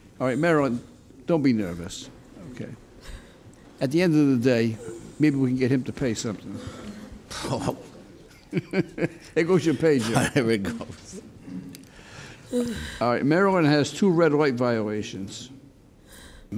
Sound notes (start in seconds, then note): 8.3 chuckles